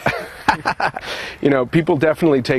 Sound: laughing

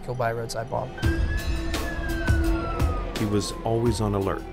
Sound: siren blaring

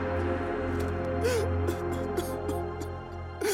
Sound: crying

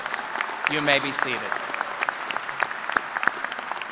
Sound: applause

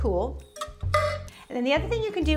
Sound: utensil clanks

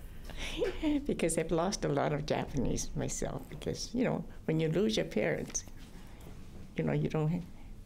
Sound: laughter

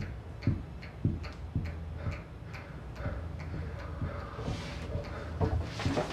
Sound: sex sounds

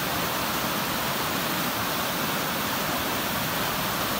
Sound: water running

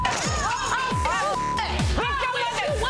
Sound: beep; shouting; beep

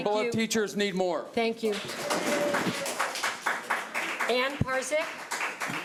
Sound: audience clapping

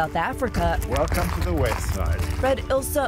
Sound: gravel crunches

